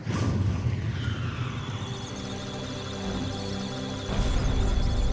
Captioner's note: electronic sounds of data; musical tones